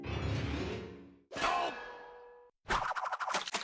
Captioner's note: Sam groaning